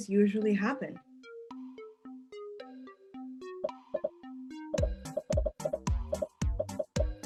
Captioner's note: upbeat music; popping